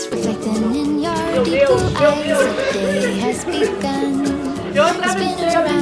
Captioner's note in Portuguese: risos